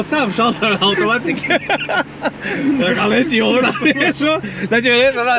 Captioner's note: laughing